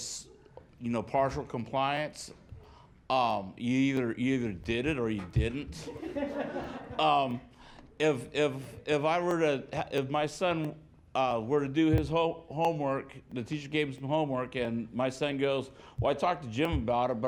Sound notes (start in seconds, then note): 9.5 laughter